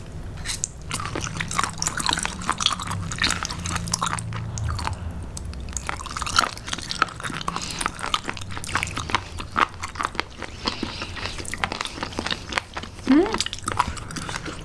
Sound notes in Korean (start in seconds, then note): 3.6 오토바이 소리